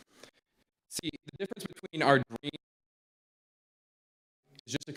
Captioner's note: audio cuts out